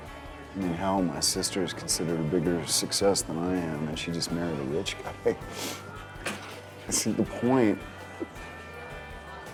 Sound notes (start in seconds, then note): 5.0 chuckles